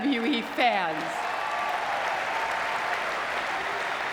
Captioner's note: audience clapping